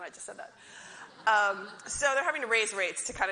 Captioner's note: audience laughs